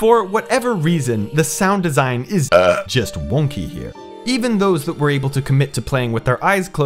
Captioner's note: belch